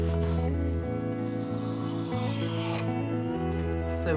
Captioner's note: knife scrapping